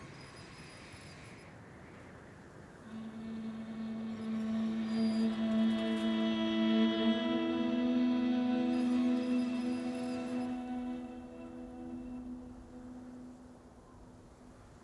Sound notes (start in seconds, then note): 0.0 faint machine whirring; 0.3 wind whooshing; 3.4 somber music; 9.1 faint machine whirring